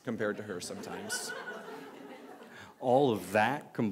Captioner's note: laughter